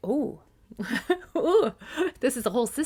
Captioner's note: giggling